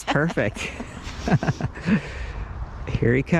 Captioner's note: laughs loudly